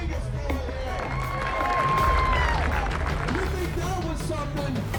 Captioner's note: cheering and applause